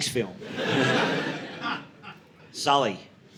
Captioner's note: audience laughing